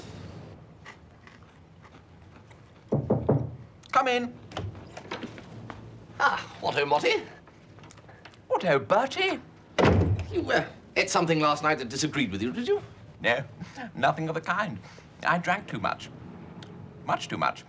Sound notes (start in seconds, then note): 2.8 knocking on door